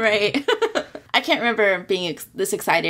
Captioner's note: laughs